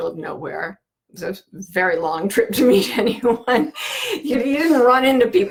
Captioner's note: laughing